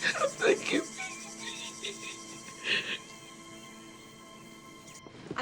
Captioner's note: sobs